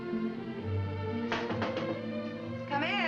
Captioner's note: door knocking